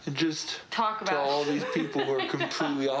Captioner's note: Risos